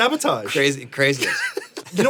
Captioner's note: Anthony laughs